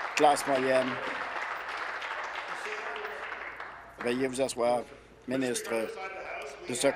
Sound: applause

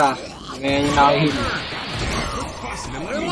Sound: tv static

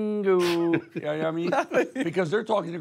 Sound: Sly laughing

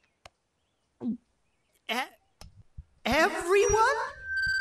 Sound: microphone feedback noises

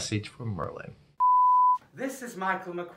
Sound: answering Machine Beep

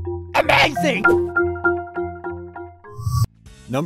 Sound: cartoon Voice

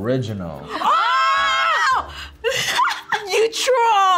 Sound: both scream; laughs

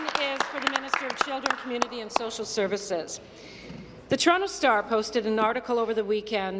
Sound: applause

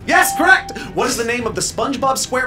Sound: electronic bell chimes

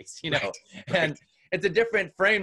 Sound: laughs

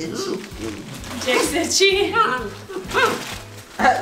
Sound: dog mumbling

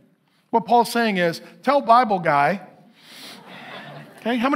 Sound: congregation laughing

